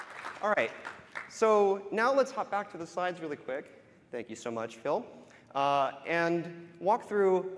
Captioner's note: applause